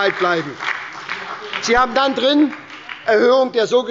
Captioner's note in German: Beifall bei der SPD – Zurufe von der CDU